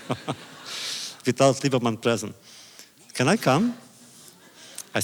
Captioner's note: laughter